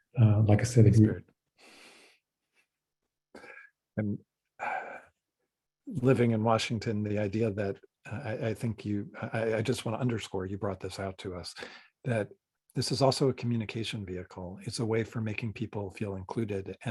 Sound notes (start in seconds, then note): 1.0 speaking softly; 1.7 chuckles